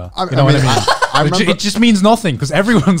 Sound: chuckling

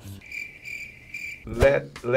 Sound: crickets chirping

